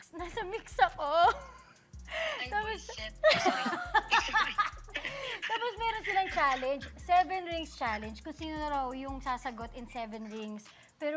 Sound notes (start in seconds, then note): 2.9 both laugh; 3.0 laughs